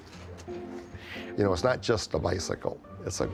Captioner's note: pat